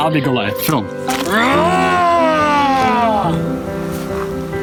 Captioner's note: growling